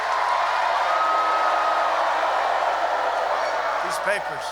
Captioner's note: applause